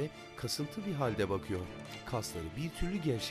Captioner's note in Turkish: Kapı açılma sesi